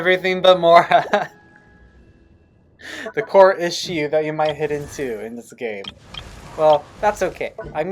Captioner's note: humiliating laughter